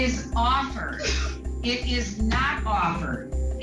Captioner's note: sobbing